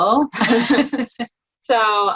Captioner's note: speakers laughing